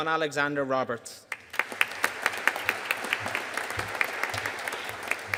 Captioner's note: audience applauding